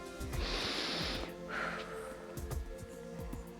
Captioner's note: inhales and exhales